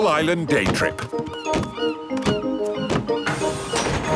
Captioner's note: gulls squawking